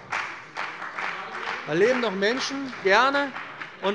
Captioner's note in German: Beifall bei der CDU und dem BÜNDNIS 90/DIE GRÜNEN